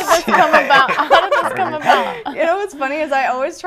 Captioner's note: laughter